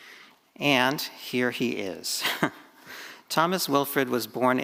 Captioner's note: chuckles